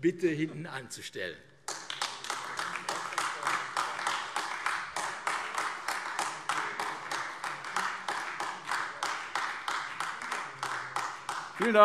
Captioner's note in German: Beifall AfD